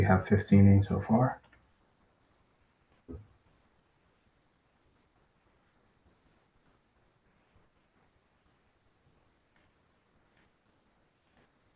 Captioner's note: pause